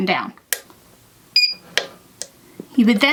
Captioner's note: machine beeps